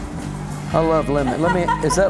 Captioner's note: laughter